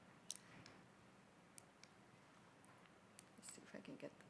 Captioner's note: button clicking